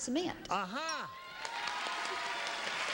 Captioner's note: audience applause; bell dings